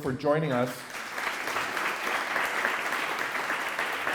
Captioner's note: applause